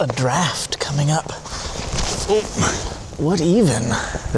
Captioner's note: more shuffling